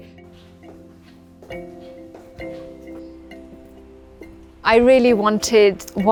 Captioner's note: footsteps tapping; gentle music